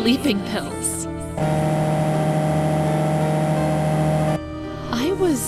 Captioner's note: motor revving!